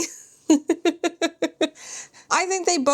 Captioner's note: laughs